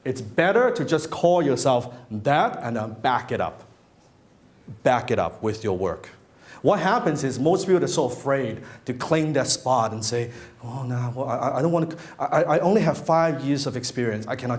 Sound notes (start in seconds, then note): none